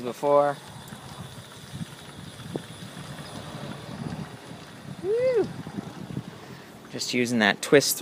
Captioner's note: soft motor sounds